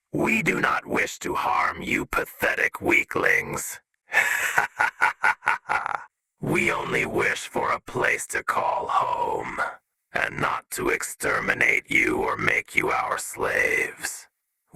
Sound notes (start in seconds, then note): 4.1 Disney villain ass laugh